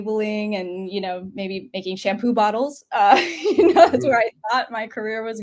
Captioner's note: laughs